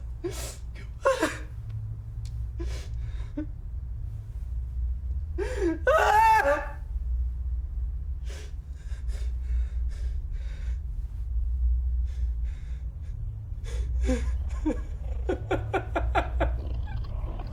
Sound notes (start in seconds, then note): 5.8 Parker screams; 13.9 growling; 13.9 Parker weeps